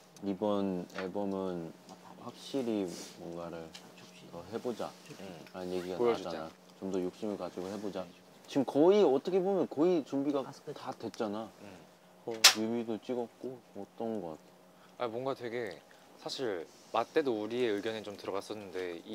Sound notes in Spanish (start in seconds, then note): none